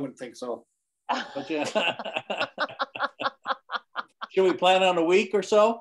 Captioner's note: people laughing